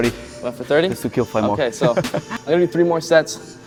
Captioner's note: laughs